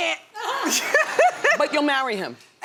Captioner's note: audience laughs